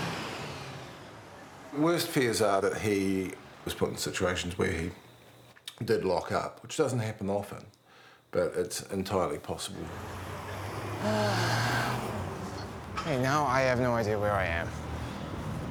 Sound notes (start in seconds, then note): 11.0 sighs